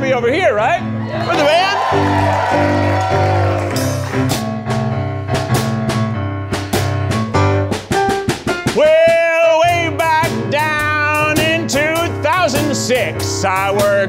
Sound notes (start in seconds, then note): 0.9 audience cheering; 4.8 blues music begins